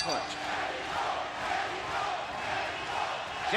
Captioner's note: audience chanting "pacquiao!"